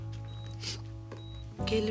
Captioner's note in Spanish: Sollozos